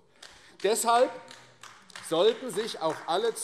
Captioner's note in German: Beifall AfD - Zuruf SPD